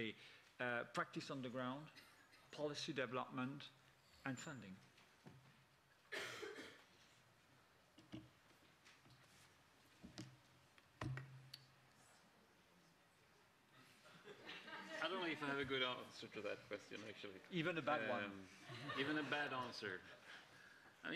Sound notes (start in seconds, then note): 5.1 speaker Transition. Laughter